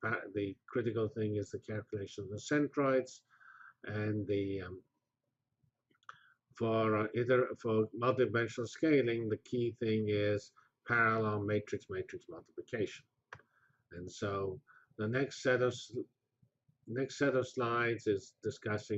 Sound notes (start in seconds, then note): 3.3 pause